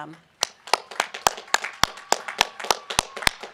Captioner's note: applause and cheering